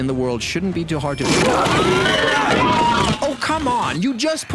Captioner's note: growling